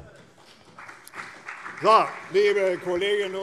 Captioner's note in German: Beifall CDU und BÜNDNIS 90/DIE GRÜNEN